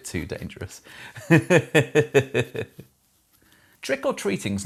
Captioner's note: laughs